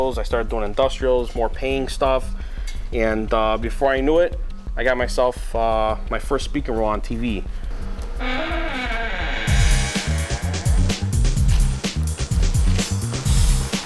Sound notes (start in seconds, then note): 8.1 loud creak; 9.4 upbeat music